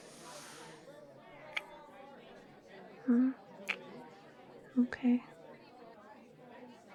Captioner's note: kiss